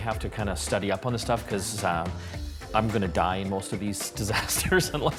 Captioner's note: chuckling